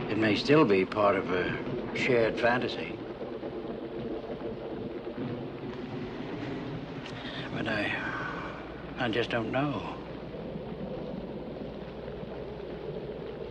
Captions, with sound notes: It may still be part of a shared fantasy. (thunder rumbles) But I just don't know. (rain patters)